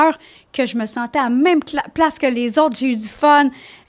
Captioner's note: in french